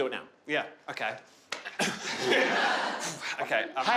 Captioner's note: crowd laughing